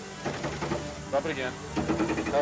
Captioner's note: vehicle thunking